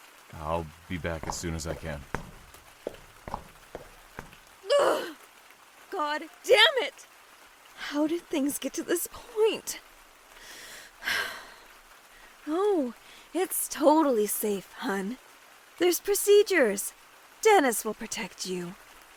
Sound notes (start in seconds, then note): 10.4 deep breath